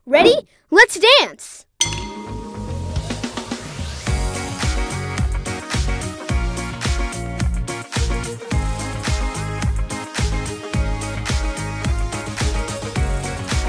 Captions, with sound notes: Ready? Let's dance. (bell dings) (upbeat music)